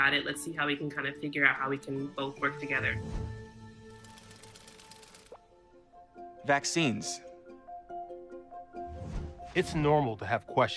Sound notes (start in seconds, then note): 2.4 bright music; 2.4 gears whirring